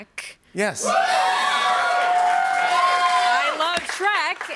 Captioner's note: cheers and applause